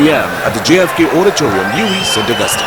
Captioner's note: wild applause and cheering for 22 seconds